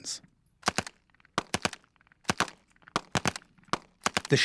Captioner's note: gunfire